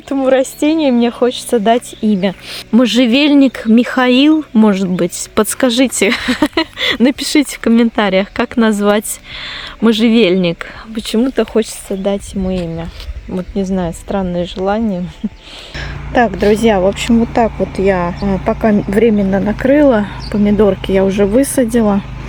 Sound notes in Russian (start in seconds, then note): 15.5 фыркает